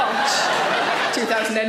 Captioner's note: audience laughs